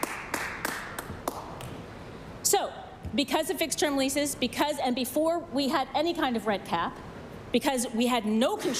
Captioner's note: some Applause